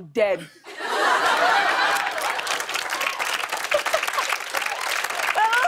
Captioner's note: laughter and applause